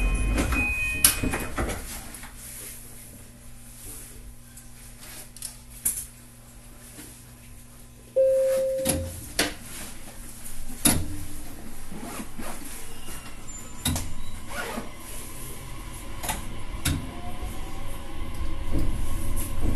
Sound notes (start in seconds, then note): 8.2 beep; 9.6 acceleration sound